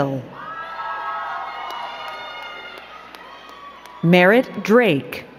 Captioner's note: crowd cheering and clapping